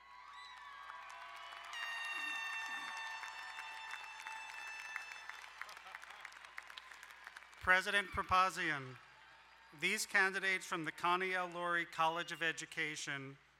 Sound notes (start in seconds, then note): 0.3 crowd cheering and applauding; 1.8 air horn blaring